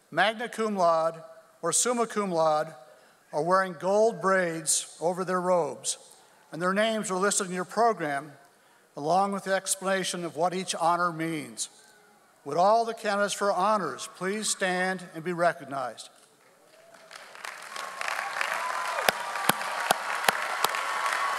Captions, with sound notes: magna cum laude, or summa cum laude, are wearing gold braids over their robes and their names are listed in your program along with the explanation of what each honor means. Would all the candidates for honors please stand and be recognized. (audience applauds)